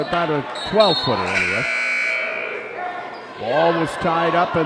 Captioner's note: buzzer sounds